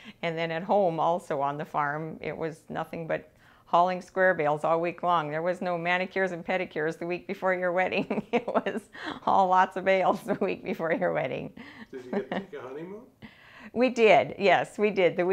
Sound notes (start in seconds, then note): 7.9 laughing